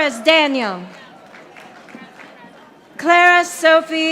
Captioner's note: audience applauding